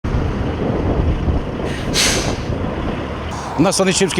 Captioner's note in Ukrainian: Шум траси